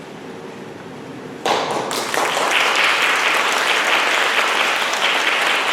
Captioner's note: applause